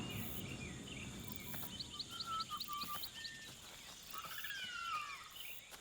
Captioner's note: birds tweeting